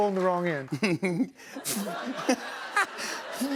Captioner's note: laughter